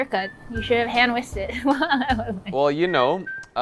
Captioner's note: laughs